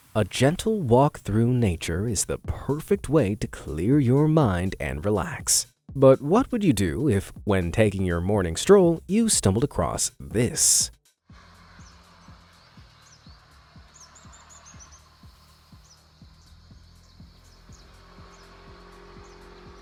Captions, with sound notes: A gentle walk through nature is the perfect way to clear your mind and relax. But what would you do if, when taking your morning stroll, you stumbled across this? (birds chirping)